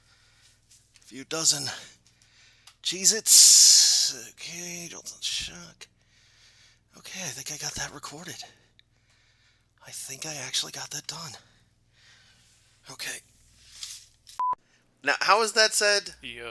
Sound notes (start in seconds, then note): 1.6 quietly; 7.1 quietly; 10.0 quietly; 12.9 quietly